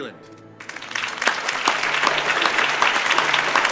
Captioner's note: clapping